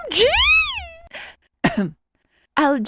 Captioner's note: ahem